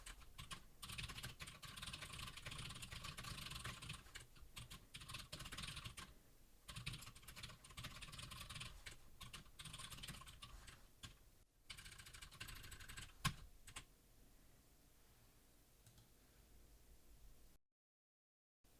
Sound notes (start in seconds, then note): 0.8 typing sounds